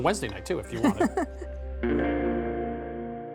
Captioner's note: laughs